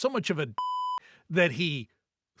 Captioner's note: beep